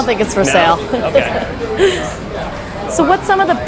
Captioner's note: interviewer laughs